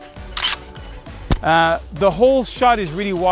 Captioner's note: camera shutter clicks